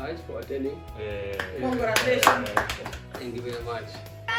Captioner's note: claps